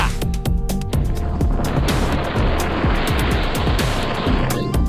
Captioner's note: wind